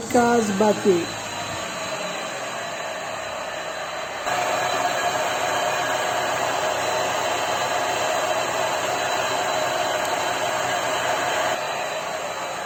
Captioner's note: sound of engine running